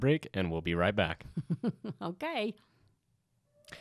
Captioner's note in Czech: Chichotá se